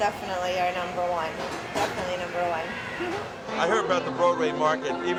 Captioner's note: laughs